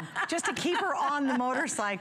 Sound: laughter

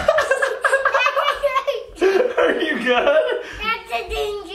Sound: laughs

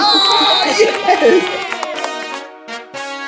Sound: crowd cheers; triumphant music plays

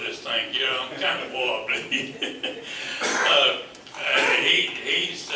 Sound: laughs

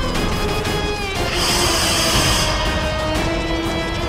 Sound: hissing

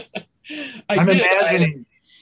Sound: chuckles

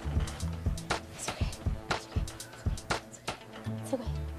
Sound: whispering

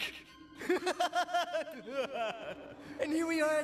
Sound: laughs

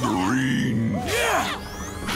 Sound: grunting

